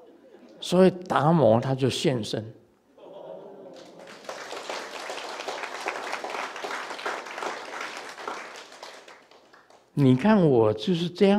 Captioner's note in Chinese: 眾鼓掌